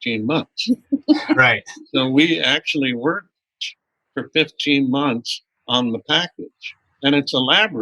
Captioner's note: laughter